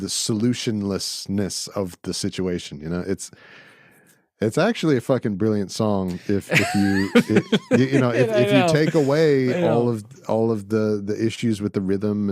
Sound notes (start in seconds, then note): 6.2 laughing